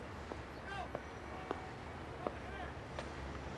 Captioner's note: shouting